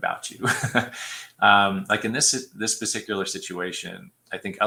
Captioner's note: laughter